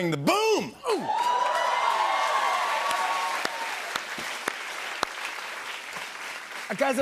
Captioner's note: cheers and applause